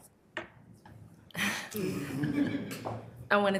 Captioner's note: members laughs